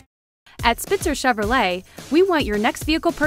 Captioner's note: voiceover